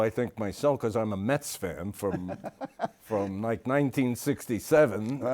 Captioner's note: Stan laughs